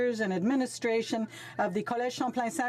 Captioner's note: speaking French